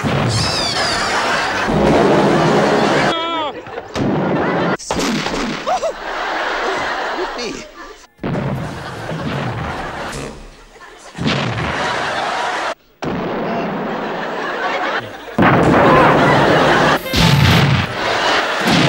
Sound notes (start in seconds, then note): 0.0 explosion; 2.0 explosion; 5.6 laughter; 8.2 explosion; 11.4 laughter; 12.8 explosion; 13.6 laughter; 15.3 explosion